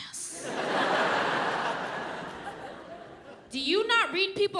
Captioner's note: audience laughs